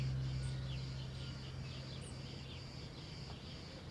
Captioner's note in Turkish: Kuş cıvıltısı sesleri